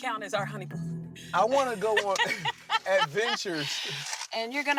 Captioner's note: laughs